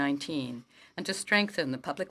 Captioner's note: speaking French